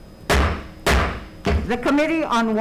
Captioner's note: gavel bangs